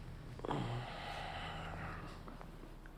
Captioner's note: moans